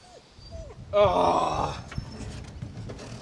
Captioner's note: groaning